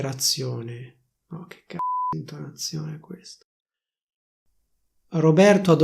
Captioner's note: beep